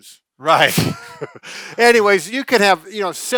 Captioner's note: chuckling